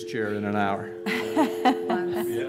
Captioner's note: laughter